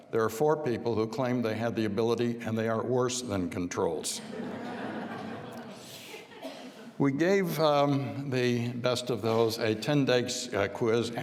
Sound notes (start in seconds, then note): 4.2 audience laughing